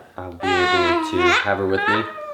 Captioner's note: coos